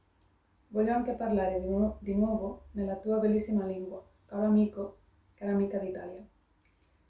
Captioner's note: in Italian